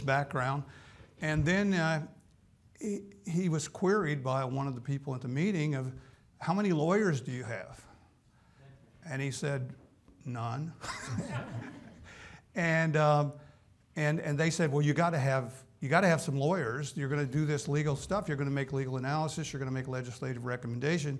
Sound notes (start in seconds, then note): 10.8 laughs